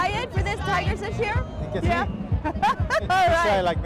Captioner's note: laughs